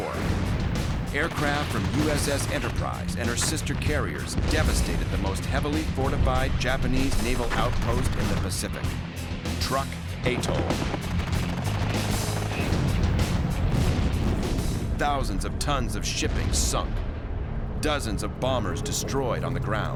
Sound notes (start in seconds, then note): 10.3 gunfire; 16.2 explosions